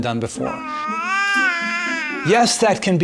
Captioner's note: babbling